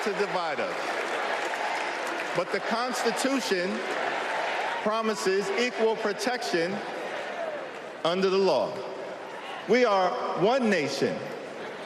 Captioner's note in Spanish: Aplausos